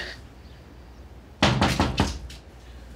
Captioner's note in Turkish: kapı vurulur